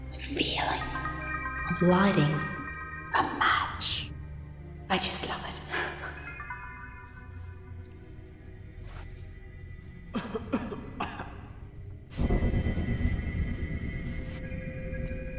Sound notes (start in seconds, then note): 6.6 chuckles; 10.1 Phil coughing; 12.2 suspenseful music